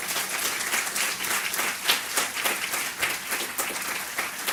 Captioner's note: audience applause